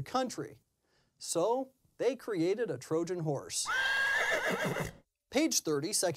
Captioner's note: horse neighs